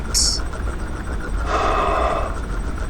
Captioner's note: Flint sighs